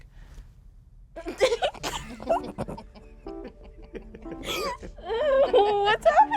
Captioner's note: laughs